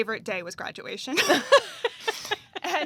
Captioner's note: laughs